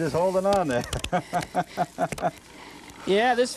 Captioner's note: laughter